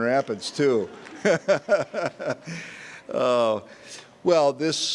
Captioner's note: all laughing